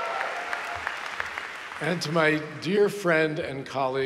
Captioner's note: applause